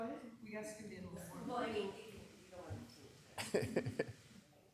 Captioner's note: people chatting